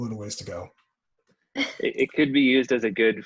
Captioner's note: laughter